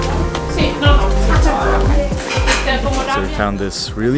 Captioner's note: speaking Italian